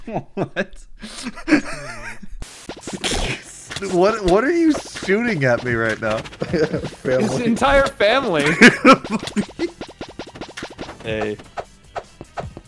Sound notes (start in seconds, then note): 5.0 chuckling; 8.1 laughing